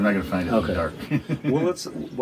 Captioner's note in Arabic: يضحك بصوت عال